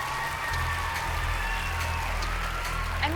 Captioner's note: cheering and applause